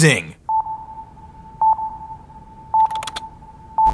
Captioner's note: sonar bleeping